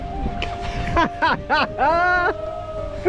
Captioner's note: laughter